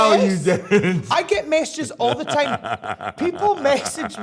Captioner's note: laughs